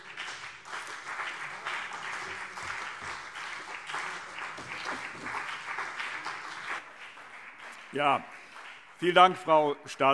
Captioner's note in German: Beifall CDU und BÜNDNIS 90/DIE GRÜNEN